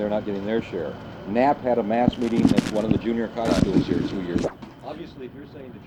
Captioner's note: camera noise